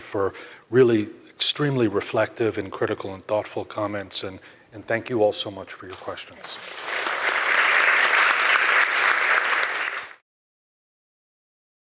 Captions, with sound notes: for really extremely reflective and critical and thoughtful comments. And thank you all so much for your questions. (audience clapping)